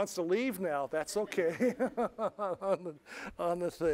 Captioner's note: laughter